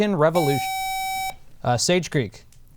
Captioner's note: buzzer